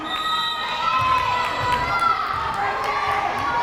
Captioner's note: whistle blares